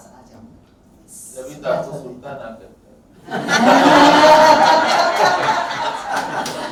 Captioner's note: laughs